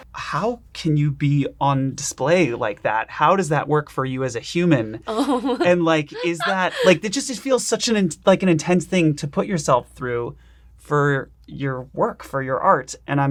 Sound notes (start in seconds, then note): 6.0 laughing